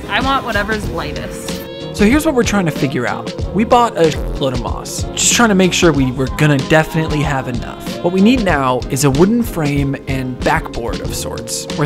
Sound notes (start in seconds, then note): 4.2 buzz